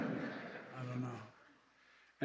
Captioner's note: laughter